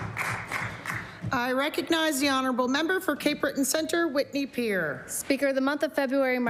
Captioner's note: applause